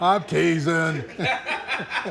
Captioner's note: laughs; both laughing; chuckles